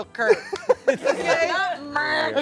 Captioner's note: everyone laughs